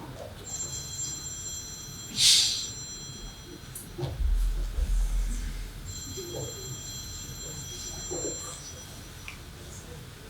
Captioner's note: phone rings